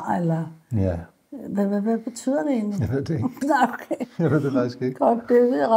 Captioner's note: chuckles